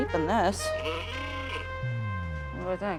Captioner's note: horn blaring; seductive music